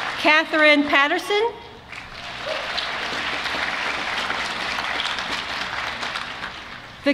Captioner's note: applause